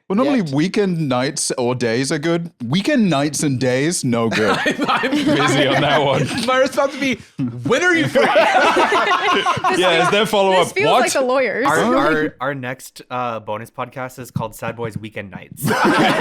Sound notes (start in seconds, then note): 4.3 laughing; 9.0 laughs; 15.6 all laughing